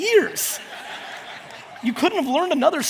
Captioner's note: audience laughs